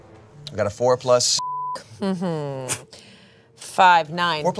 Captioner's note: beep